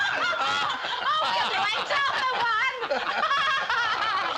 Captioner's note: all laughing